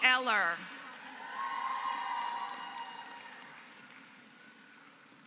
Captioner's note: applause